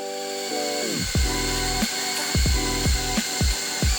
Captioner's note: drill whirring